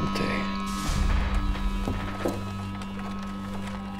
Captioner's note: speaking in foreign language